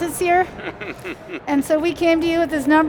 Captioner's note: laughs